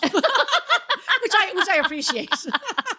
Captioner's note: laughing